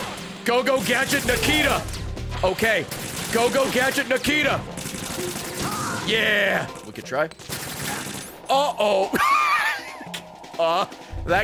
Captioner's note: laughs